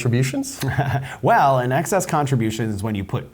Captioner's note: chuckling